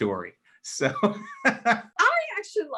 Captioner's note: laughs